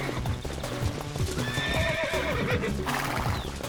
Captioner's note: horse neighs